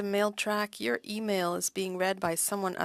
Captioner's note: speaking French